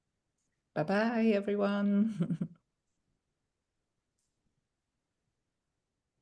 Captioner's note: chuckling